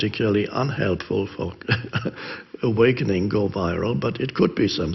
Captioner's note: chuckles